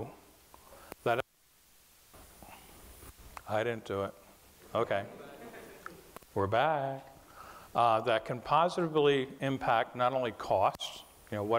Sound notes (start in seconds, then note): 1.0 mic cuts out; 5.0 class chuckling